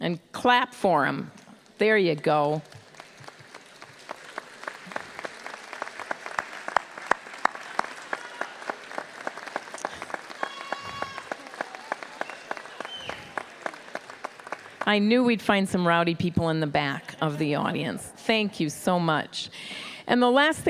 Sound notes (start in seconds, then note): 4.4 applause